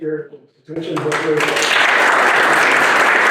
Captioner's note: audience applauding